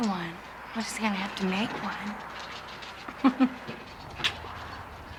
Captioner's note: laughs